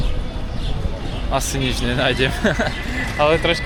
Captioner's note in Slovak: smiech